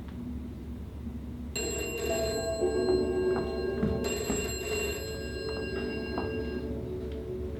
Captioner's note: telephone ringing